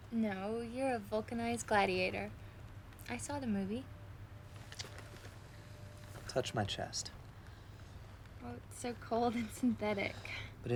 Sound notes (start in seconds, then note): none